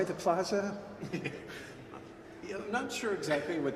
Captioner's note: chuckles